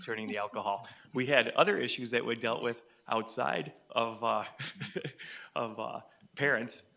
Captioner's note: chuckles; people chuckle